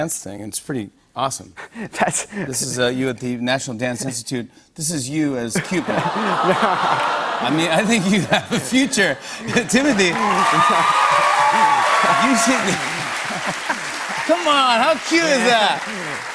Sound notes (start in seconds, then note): 5.8 audience "Awws"; 9.2 cheers and applause